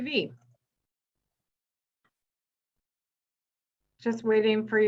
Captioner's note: silence